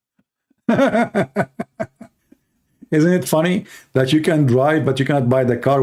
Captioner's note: Ketawa